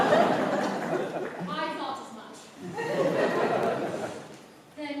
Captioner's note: laughter; laughter